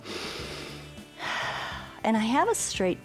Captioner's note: inhales and exhales